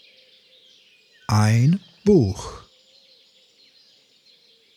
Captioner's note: german